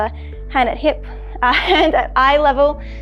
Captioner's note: laughs